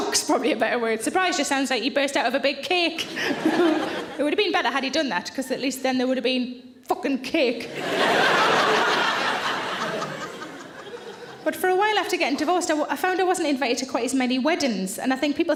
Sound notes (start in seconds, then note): 3.0 audience laughs; 3.1 laughs; 7.7 audience laughs